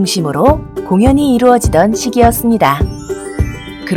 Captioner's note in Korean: 반짝이는 효과음